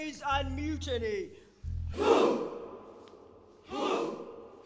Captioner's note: people chanting